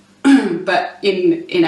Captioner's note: clears throat